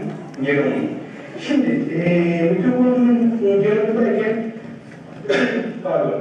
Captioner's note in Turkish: öksürüyor